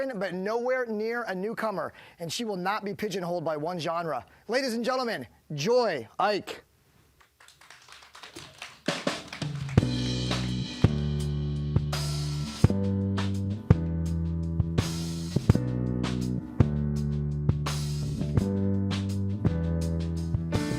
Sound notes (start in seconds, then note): 7.2 applause; 8.4 mellow music